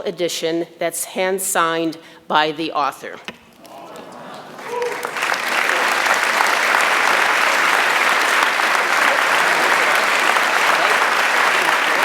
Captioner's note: applause